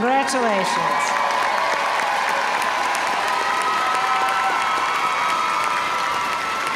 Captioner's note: audience cheering and applauding